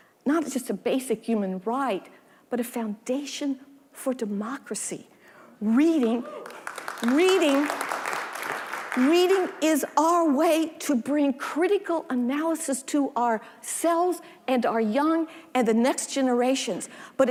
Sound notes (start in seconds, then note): 6.3 audience applauding